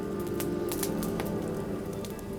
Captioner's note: fire crackling; gentle music